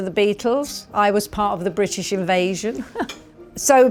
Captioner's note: chuckles